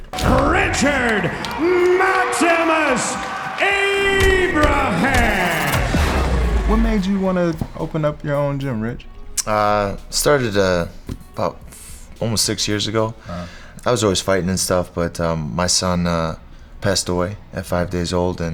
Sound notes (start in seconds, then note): 4.1 punch thudding; 5.2 film reel rewinding